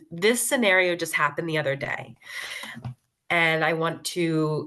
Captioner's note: none